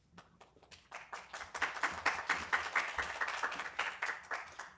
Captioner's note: applause